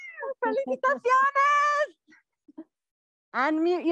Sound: speaking in foreign language

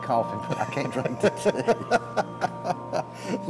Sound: laughter

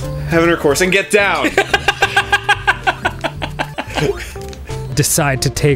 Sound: laughing

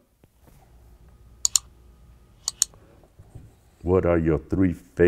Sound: mouse clicking

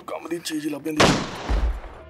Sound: gun Shot

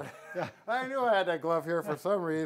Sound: men chuckling

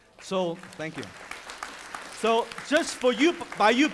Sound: audience applauding

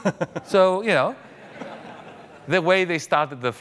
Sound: audience laughing mildly

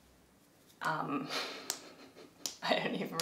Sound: laughs

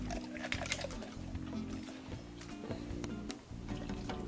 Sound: kibble crunches

